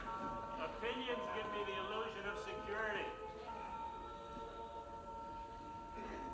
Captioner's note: laughter